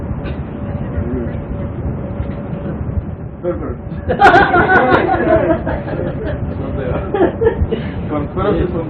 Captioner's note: laughter